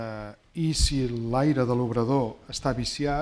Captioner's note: speaking spanish